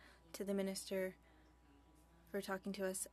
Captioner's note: speaking French